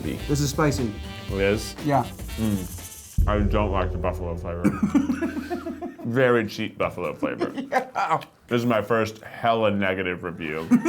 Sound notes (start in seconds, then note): 4.5 laughing